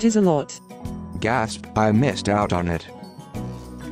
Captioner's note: gasp